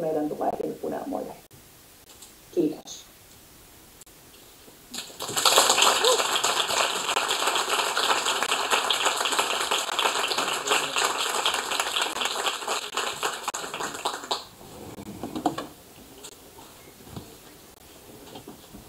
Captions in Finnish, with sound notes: meidän tuleekin unelmoida, kiitos. (Aplodeja.)